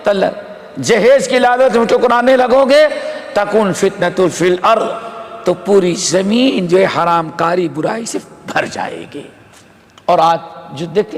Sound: in Arabic

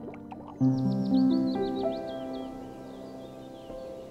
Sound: birds chirping

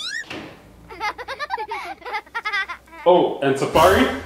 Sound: laughter

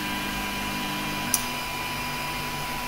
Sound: click

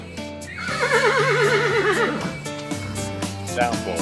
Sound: horse Neighing

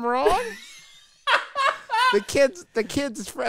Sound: laughs

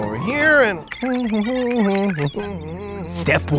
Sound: hums

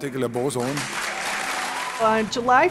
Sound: clapping

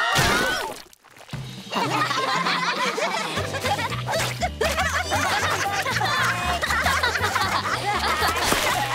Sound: all yelling; all laughing

